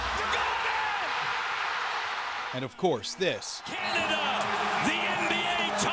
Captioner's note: cheers and Applause